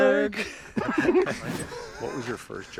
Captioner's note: laughing